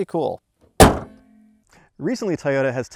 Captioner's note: car hood banging